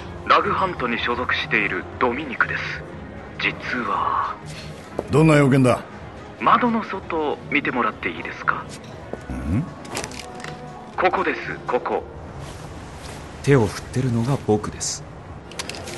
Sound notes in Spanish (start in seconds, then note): 9.3 Jack gruñe extrañado